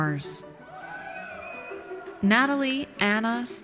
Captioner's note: audience cheers